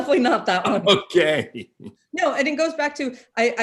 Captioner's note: laughing